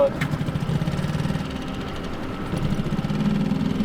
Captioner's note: motor rumbling